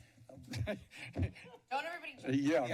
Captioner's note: laughs